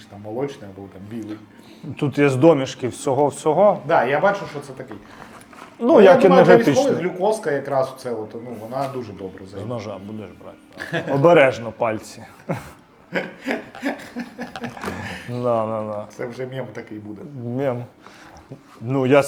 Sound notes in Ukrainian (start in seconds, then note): 12.3 сміх